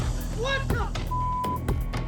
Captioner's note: beep